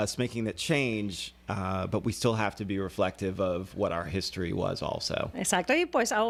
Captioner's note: Hablando ingl\s